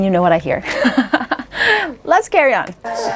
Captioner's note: laughs